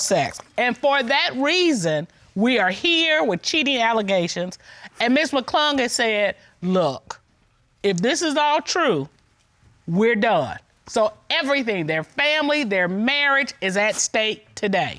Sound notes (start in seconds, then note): none